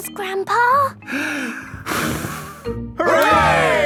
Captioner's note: breathes deeply, blows